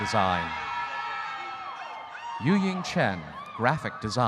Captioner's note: audience cheering